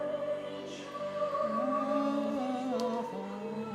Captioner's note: humming along to music